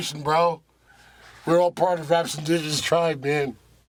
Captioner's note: nerd voice